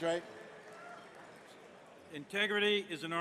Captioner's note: applause and cheers